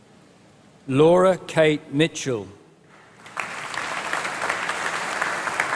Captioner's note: applause